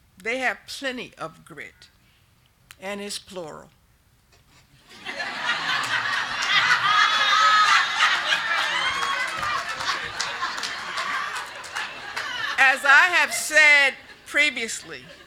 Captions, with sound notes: They have plenty of grit and it's plural. (group laughing) As I have said previously